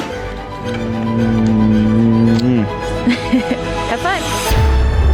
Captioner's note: kissing; dramatic music